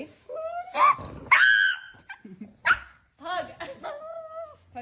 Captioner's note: dog squealing